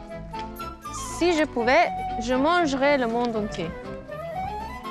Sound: speaks french

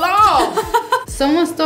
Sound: laughs

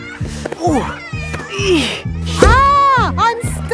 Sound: grunting

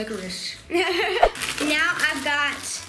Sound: laughing

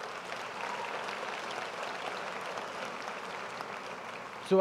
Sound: applause

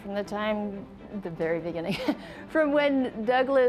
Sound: laughing

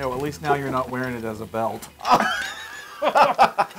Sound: laugh

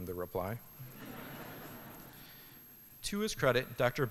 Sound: laughter

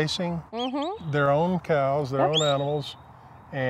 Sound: whistles

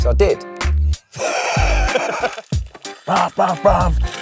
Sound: laughing

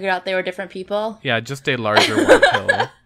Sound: laughs

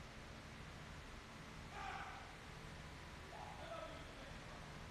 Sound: people chattering

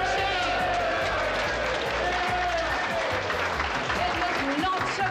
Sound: audience applauding and cheering

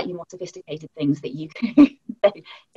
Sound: laughs

